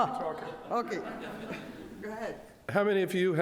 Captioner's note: audience laughs